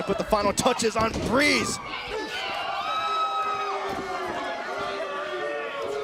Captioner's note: crowd chatter